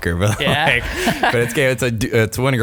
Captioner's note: laughs